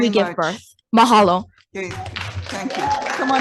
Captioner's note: audience applauding